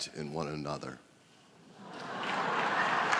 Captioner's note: applause